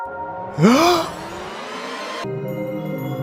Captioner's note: Teddy gasps